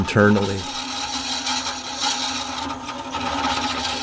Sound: wood scraping

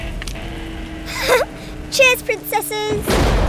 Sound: giggles

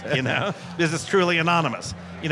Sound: laughs

